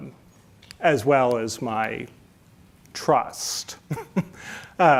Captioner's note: chuckles